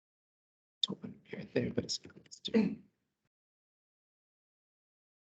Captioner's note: indistinct chatter